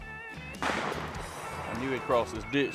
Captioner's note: gun fires